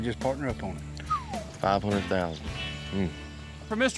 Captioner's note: whistles